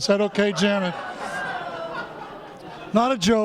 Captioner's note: laughter